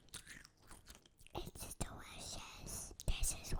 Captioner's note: whispering